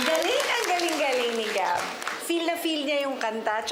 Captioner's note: audience clapping